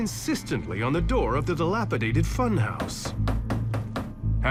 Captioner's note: knocking